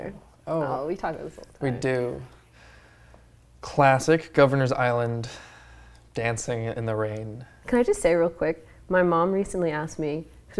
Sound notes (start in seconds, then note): none